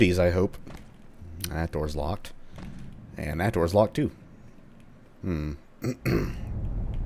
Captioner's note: clears throat